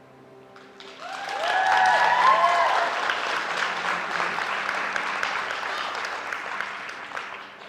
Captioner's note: applause